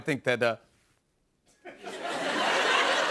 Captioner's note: no audio; laughter